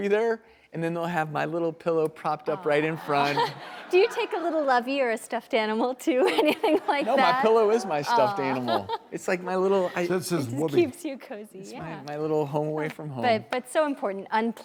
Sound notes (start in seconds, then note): 2.4 laughter; 6.3 laughs